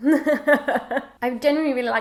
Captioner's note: laughs